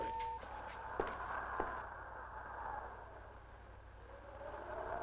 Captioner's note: wind rushing